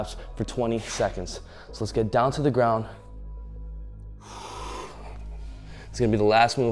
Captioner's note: exhales loudly